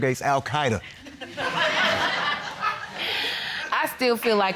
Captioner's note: audience laughing